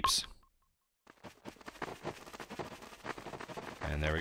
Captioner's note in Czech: zvuky běžícího Scouta